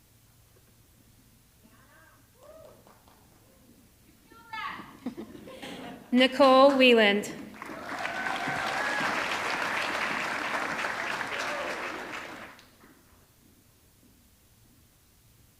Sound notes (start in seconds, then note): 7.4 audience clapping; 7.5 audience cheering